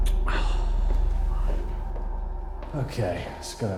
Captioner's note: Danny sighs